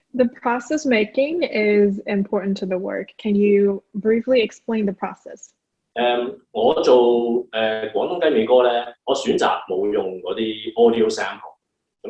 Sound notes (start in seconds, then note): 6.5 Cantonese